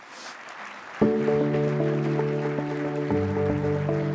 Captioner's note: applause